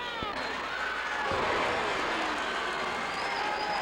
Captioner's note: crowd exclaims; crowd cheering